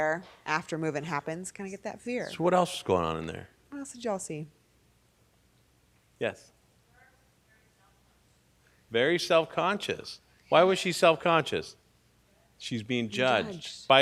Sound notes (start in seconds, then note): 7.2 person speaking off mic